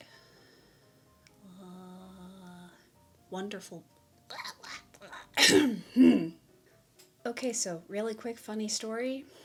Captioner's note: bleh bleh bleh! clears throat